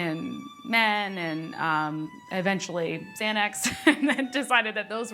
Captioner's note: laughs